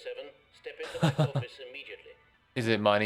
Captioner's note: laughter